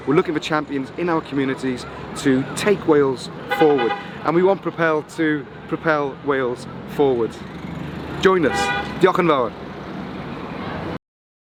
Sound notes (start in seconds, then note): 3.4 car horn beeps